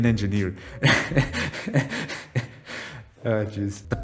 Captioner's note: laughs away the pain